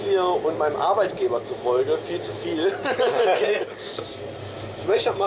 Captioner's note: laughing